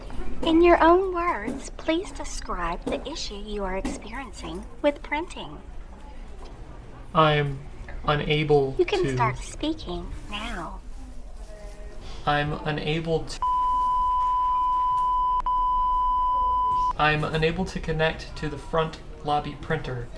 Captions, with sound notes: In your own words, please describe the issue you are experiencing with printing. I'm unable to....YOU CAN START SPEAKING NOW. I'm unable to......(interrupted by beep on phone) I'm unable to connect to the front lobby printer....